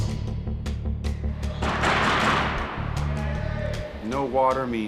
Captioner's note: banging on door